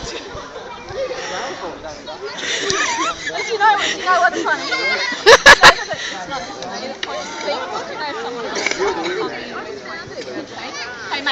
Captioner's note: laughs